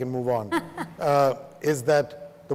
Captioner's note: laughs